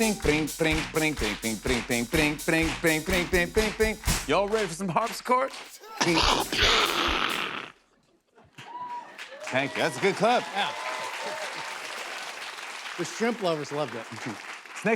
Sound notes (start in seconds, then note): 6.0 imitates explosion